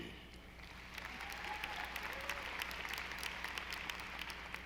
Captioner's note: audience applauding